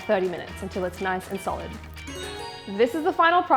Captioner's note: loud ding